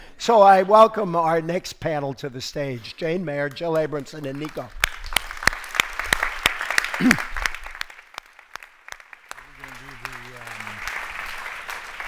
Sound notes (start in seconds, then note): 3.7 audience applauds